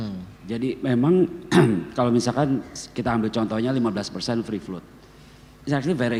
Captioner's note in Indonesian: berdehem